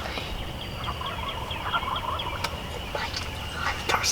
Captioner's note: turkeys gobbling; whispering